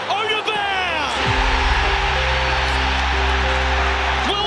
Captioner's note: crowd erupts